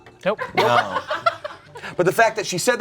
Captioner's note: group laughs